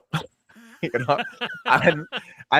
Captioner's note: laughing